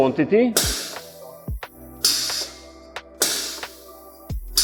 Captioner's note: metal clanking